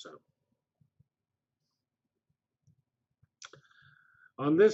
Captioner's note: pause